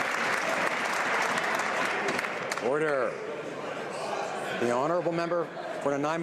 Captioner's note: some Applause